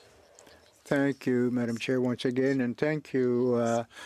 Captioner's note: speaking French